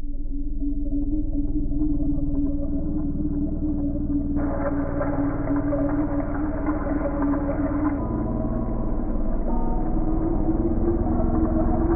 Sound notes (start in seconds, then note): 0.1 high intensity music; 4.0 water sloshing; 8.5 high intensity music